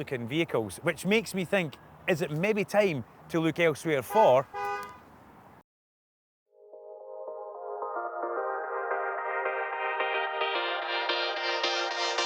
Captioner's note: horn beeps